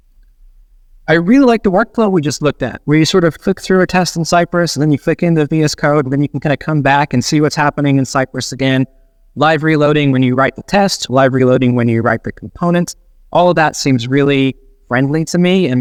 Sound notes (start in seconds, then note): none